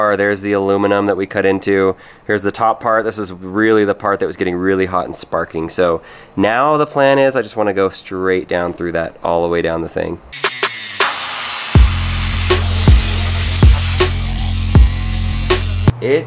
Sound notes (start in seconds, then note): 10.4 electric whirring; 10.4 hip-hop music